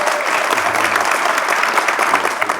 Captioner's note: applause